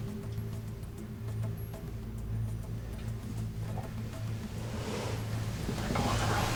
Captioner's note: whispering